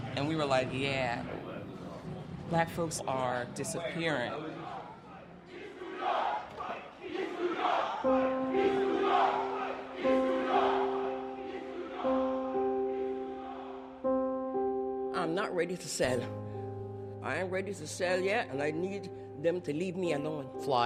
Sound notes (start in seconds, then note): 5.4 yelling; 8.7 sad piano music